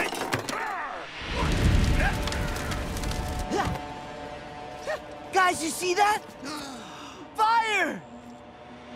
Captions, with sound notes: [grunting] Guys, you see that? [gasping] Fire!